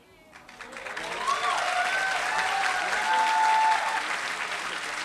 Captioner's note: applause